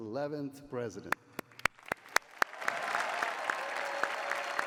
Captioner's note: cheering